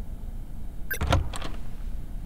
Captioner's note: Door opens